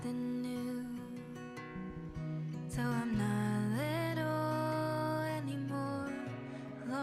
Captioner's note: laughs